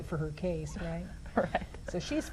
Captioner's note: laughs